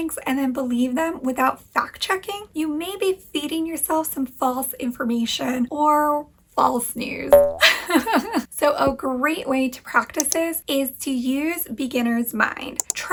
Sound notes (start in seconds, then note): 7.3 boing; 8.2 laughs